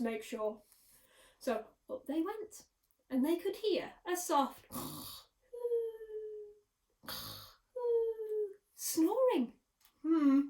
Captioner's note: snoring